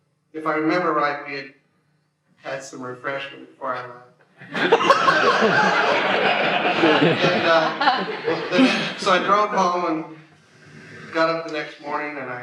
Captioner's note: laughter